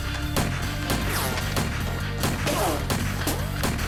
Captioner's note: guns firing